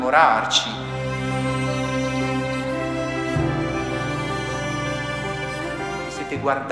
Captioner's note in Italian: cinguettio